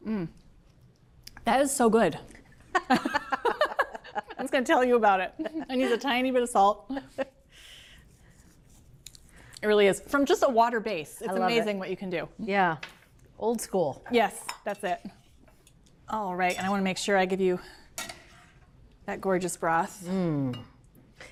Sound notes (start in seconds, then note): 2.7 laugh